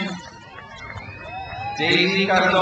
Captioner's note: crowd cheers